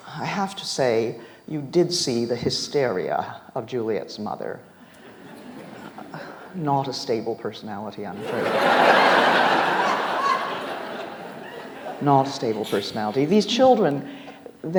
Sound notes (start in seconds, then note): 8.1 audience laughs